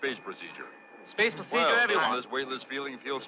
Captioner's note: all chattering